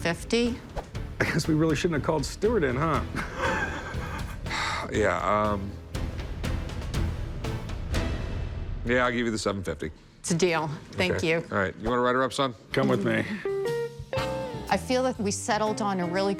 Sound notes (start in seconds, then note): 3.1 chuckles; 4.0 Rick exhales sharply; 5.7 suspense music